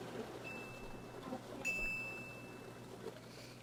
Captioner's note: chimes